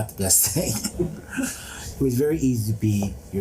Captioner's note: laughs